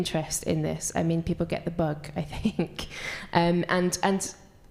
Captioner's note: chuckles